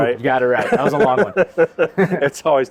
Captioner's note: laughs